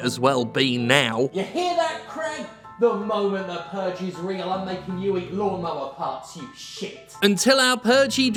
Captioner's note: yells offscreen